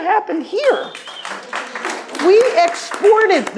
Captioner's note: audience claps